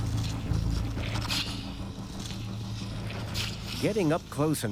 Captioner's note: splashing